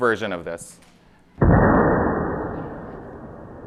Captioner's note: booming sound